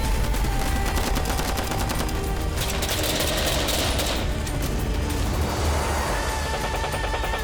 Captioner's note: powerful music; war sounds; plane taking off